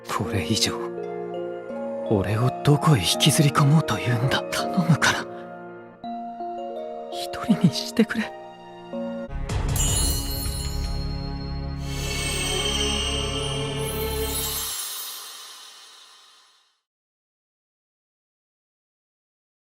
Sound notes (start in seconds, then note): none